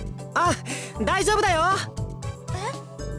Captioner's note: shout